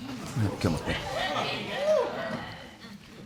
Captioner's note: audience murmuring